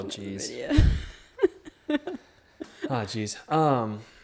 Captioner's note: chuckles